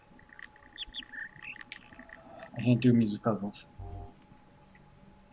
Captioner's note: bird chirps high-high-low-mid